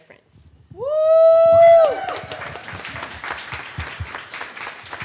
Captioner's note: audience cheers and applause